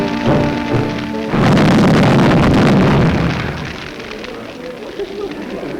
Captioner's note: fire roars; people chatter